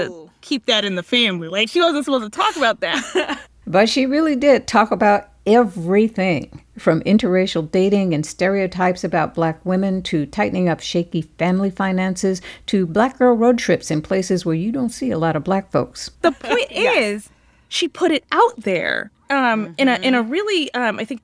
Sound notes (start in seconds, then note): 2.8 laughter; 16.2 soundbite of archived recording; 16.2 laughter